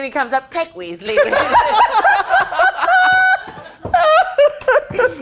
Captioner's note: all laughing